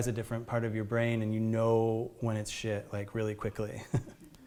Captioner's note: chuckles